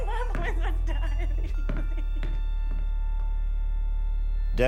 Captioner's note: cries